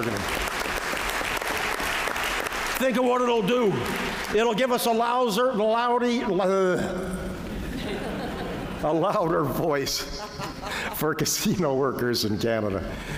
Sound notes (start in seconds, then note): 0.0 applause; 7.6 laughter